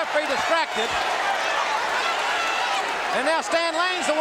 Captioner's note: audience cheering